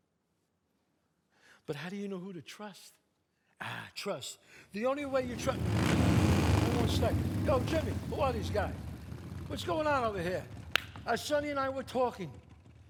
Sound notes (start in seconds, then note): 5.2 engine revving up; 10.7 claps